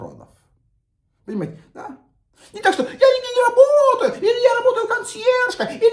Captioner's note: chuckles